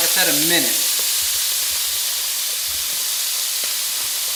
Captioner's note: meat sizzles